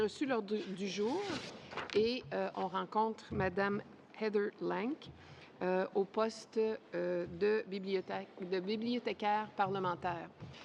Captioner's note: speaking French